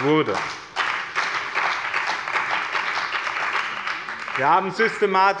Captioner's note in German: Beifall bei dem BÜNDNIS 90/DIE GRÜNEN und der CDU